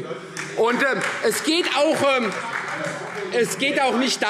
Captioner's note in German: Beifall Freie Demokraten